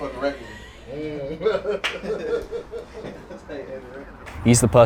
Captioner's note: laughing